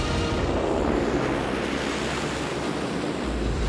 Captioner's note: airplane taking off